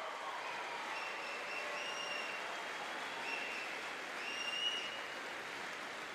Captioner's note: audience cheering and applauding